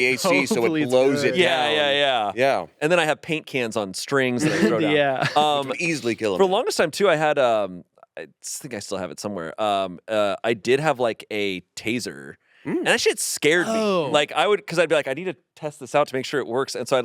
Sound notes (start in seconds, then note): 4.4 laughs